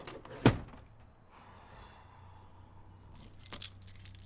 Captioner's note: exhales